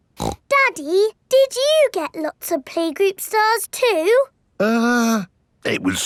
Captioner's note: snorts